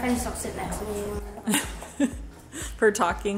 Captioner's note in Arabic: ضحكات خافتة من الكريستال